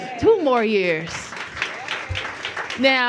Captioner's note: applause